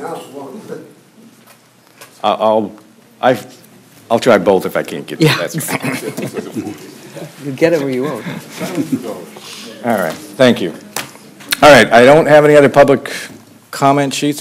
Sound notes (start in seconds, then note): 5.5 laughter